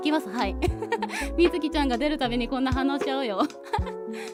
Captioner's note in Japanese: 笑い